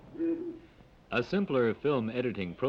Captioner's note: machines whir